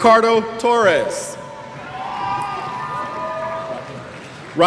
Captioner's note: cheers